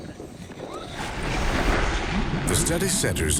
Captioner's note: splashing